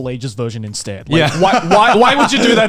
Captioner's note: laughs